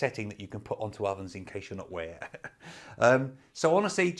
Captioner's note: chuckles